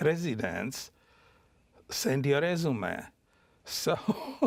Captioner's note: chuckles